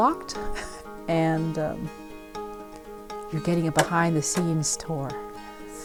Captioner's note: chuckles